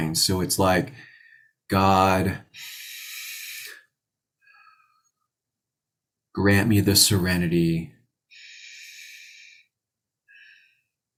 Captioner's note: breathes